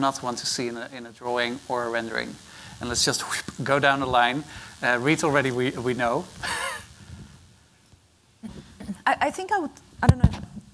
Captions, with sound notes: want to see in a drawing or a rendering? And let's just, [whoosh], go down the line. Reed already, we know. I think I would-- I don't know.